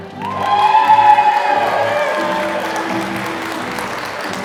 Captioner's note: applause